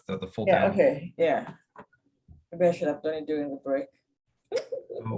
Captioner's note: laughter